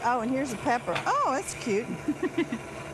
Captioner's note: laughs